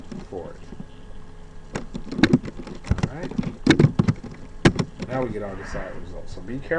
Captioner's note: typing sounds